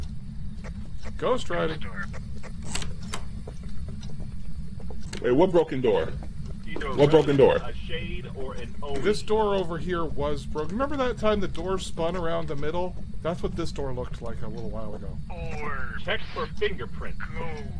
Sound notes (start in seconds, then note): 2.6 door opens